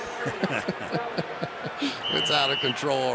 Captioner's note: announcer on pa; laughter